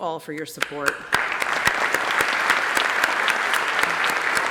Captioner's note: applause